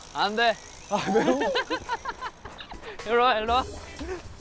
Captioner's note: giggling